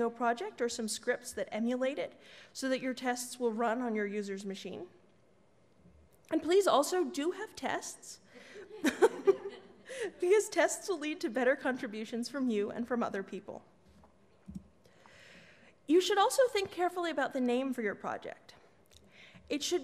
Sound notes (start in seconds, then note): 8.5 laughs